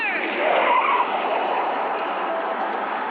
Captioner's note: tires screeching